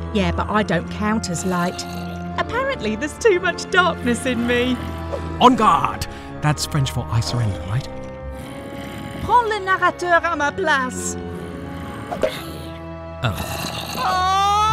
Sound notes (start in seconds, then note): 8.8 speaking French; 13.2 thonk; 13.9 screams